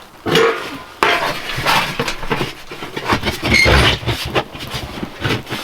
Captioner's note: metal creaking and rattling